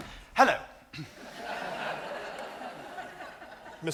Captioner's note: audience laughs